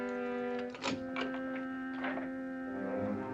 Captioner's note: door unlocking & opening